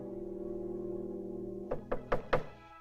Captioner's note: knocking